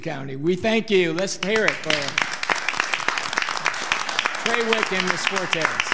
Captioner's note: audience applauding